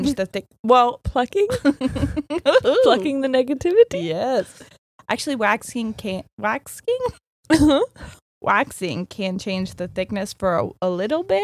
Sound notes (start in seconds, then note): 1.4 laughing; 7.5 chuckles